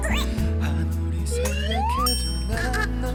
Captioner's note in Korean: 스윽